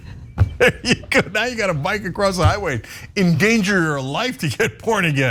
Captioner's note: laugh